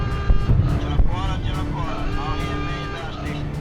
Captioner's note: alarm blaring